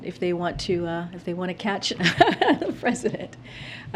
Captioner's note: laughs